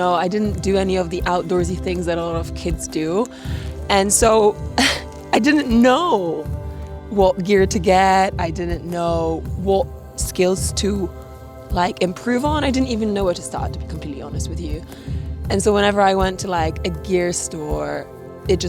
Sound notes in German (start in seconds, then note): 4.6 lacht